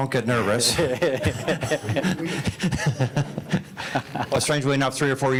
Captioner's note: group laughing